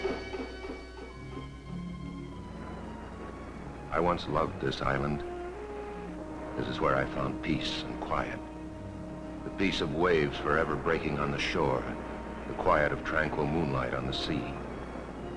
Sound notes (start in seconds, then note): 1.0 dramatic music; 1.0 waves splashing